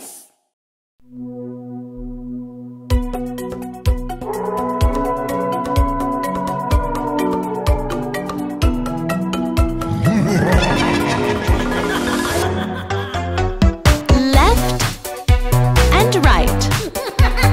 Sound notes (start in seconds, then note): 4.1 howls; 9.8 evil laughter